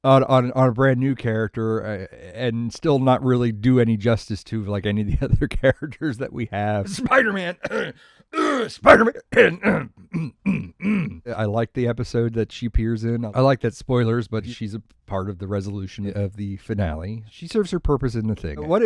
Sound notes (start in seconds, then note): 8.3 cough